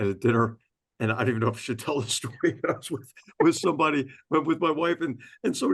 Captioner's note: laugh